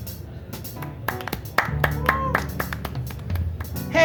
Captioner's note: small claps